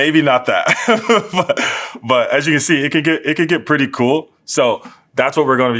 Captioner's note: laugh